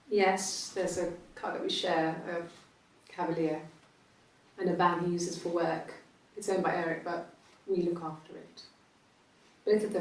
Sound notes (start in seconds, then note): none